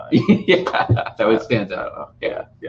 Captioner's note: laughing